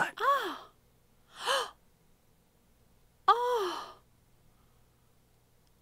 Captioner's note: gasp